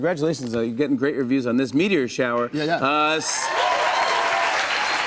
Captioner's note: cheers and applause